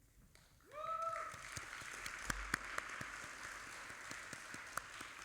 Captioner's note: audience applauding